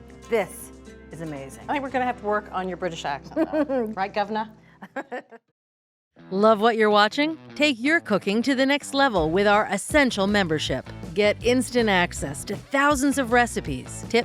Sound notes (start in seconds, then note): 4.8 chuckles; 4.8 laughs